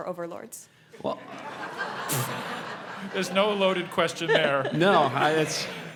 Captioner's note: laugh